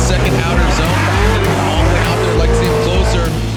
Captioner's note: engines revving